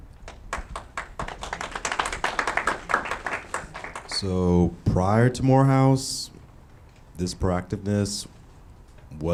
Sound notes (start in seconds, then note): 0.2 audience clapping